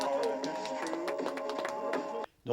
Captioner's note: applause